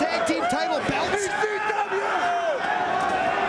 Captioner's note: spectator chanting "ECW!"; spectators cheering